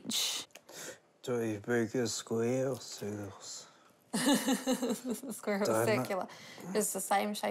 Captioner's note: laughs